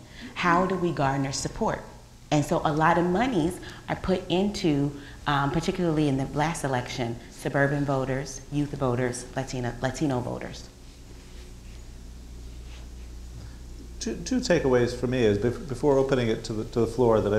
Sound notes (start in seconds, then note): none